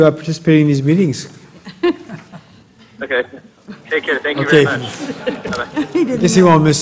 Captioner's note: laugh